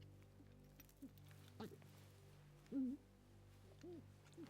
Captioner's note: contained sobbing